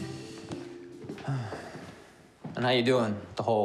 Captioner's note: sighing